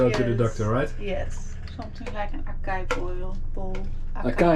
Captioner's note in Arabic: يتحدث بلغة أجنبية